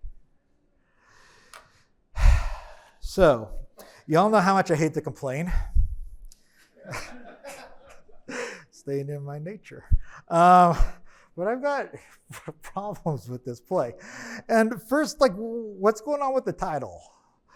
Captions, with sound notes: (sighs) So, you all know how much I hate to complain. (attendees laughing) Staying in my nature. But I've got problems with this play. And first, like, what's going on with the title?